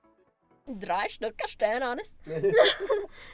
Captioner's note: laughs